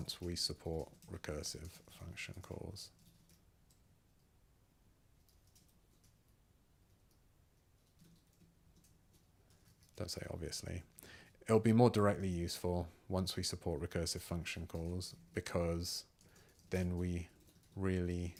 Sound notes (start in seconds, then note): 3.3 silence